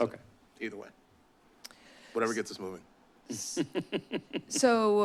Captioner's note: laugh